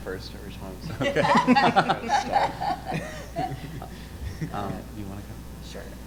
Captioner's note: panelists laughing